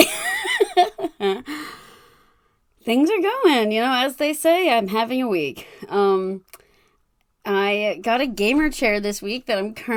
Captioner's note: laughs